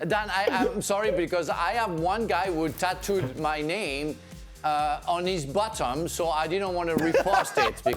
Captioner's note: laughter